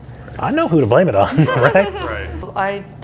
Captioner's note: all laughing